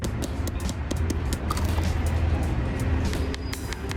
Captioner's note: fingers tapping